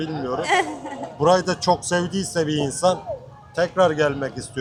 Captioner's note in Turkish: kahkaha